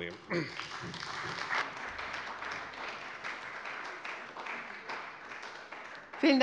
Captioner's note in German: Beifall bei der CDU